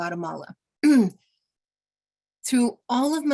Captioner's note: clearing throat